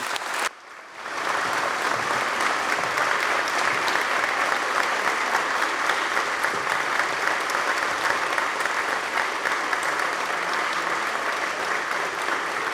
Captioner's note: applause